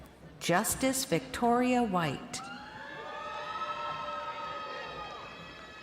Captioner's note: crowd cheering